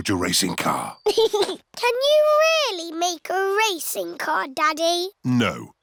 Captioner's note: chuckles